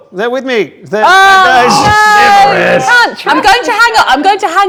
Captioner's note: overlapping chattering